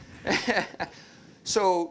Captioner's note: laughter